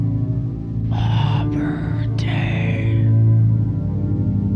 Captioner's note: whispers